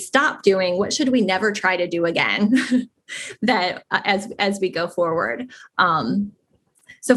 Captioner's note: laugh